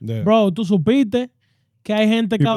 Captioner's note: speaking In Foreign Language